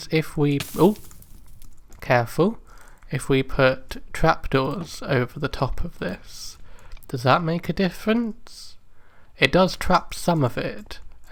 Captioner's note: burning sound